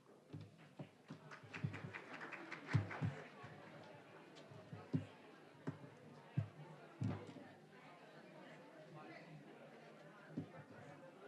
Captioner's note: general chatter